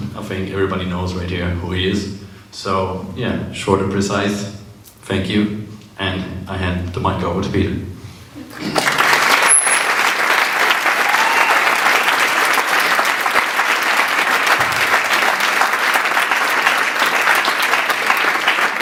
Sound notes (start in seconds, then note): 8.6 sustained Applause